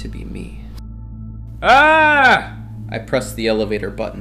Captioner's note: shouts